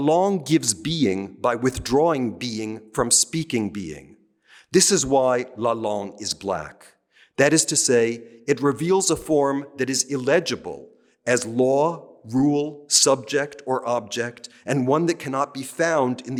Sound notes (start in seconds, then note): 0.1 speaking french; 5.4 speaking french